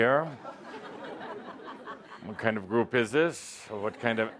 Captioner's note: laughter